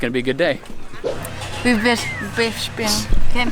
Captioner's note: stuttering